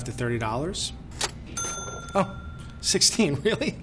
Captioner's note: cash register ding